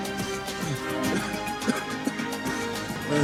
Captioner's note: man coughs